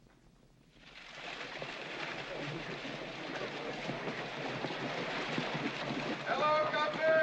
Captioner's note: hooves trotting